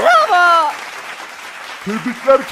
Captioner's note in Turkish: Alkış sesi